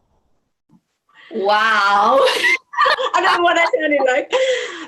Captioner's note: laughs